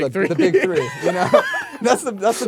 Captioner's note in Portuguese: risos